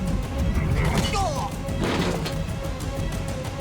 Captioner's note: grunts